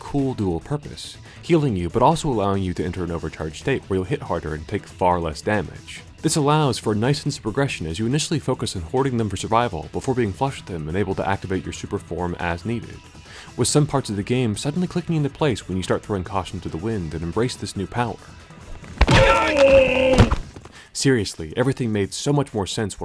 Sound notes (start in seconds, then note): 19.0 thugs groan